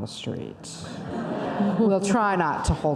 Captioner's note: audience laughter